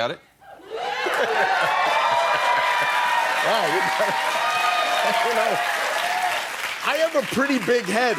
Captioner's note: cheering